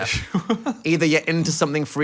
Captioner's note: laughs